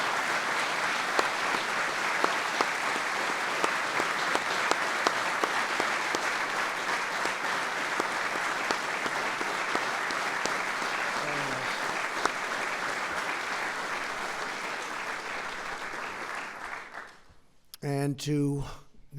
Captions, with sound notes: Thank you. Please stand up. (Applause.) And to his beautiful wife Valerie, who agrees that